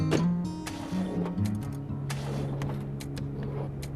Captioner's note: car englne stallllng